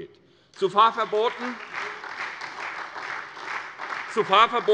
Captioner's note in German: Beifall SPD und vereinzelt Freie Demokraten